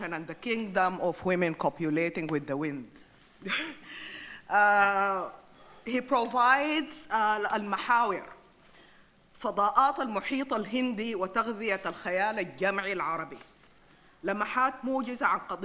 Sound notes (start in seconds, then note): 7.4 speaks in foreign language